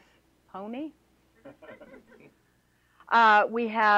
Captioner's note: laughter